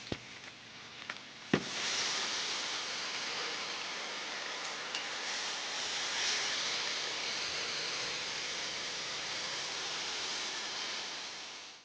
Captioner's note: sizzling